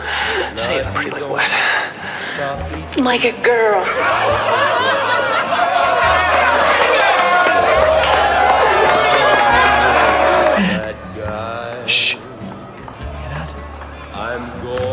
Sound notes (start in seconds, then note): 3.8 laughter; 6.3 laughter builds